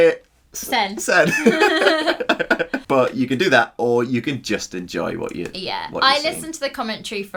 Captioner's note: laughing